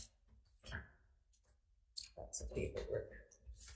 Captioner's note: papers shuffling